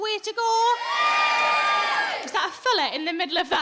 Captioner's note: audience cheers